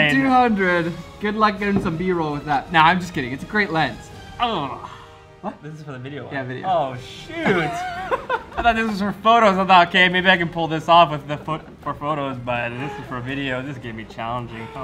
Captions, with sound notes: - 70-200 good luck getting some B roll with that. Nah I'm just kidding, it's a great lens. - Urgh. - What? - This is for the video one. - Yeah video. - Oh shoot! - (laughs) - I thought this was for photos I thought okay maybe I can pull this off with the for photos but if this is for video this is going to be challenging.